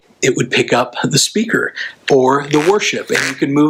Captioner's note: microphone trembles